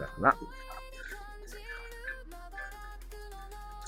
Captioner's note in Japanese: 泣き声